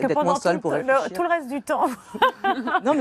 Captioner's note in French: rires